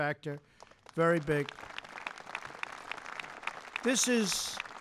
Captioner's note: applause